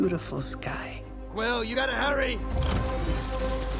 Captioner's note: engine revs